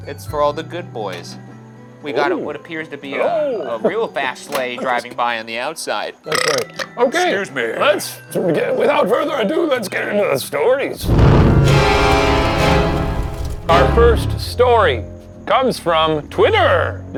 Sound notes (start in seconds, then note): 6.2 belching; 11.0 dramatic music; 11.0 smoke whooshing